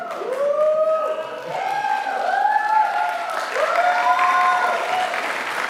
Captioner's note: applause